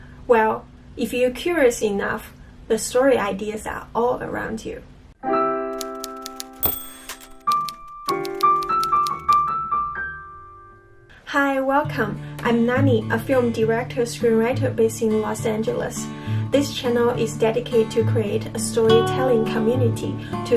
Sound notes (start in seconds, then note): 5.4 classical music; 5.8 typewriter clattering; 6.6 dings